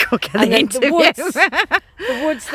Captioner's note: laughs